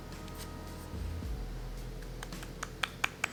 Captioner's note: sound of hitting the tart pan